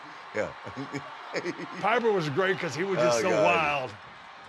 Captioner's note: laugh